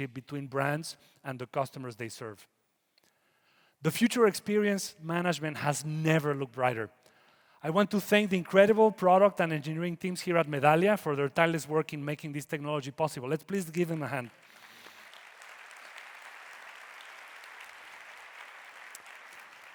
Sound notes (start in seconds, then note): 14.4 audience applauding